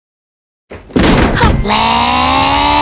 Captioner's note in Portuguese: Miku dá um tapão na porta